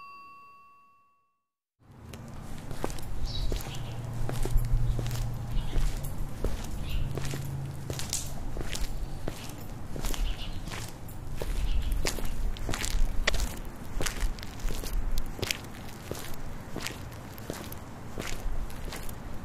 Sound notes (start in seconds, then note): 1.6 footsteps